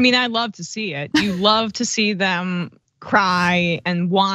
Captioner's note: laugh